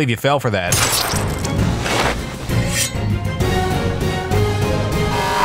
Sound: gunshot bangs

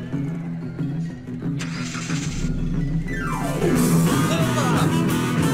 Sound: dramatic music; engine starting; upbeat music

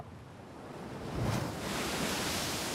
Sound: waves crashing

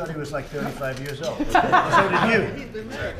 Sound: laughter

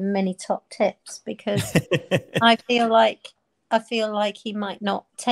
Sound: laughing

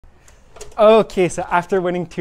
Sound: door squeaking

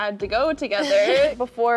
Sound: zendaya chuckles

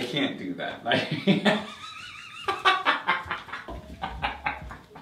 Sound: both laughing

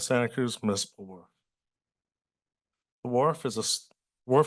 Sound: pause

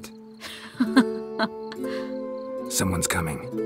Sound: laugh

